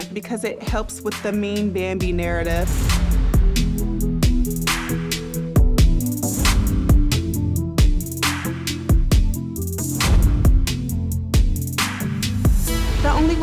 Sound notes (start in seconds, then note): 2.2 transition whooshes; 2.7 tense hip-hop music; 6.5 transition whooshes; 12.3 tense hip-hop music